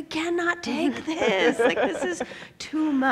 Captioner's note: laugh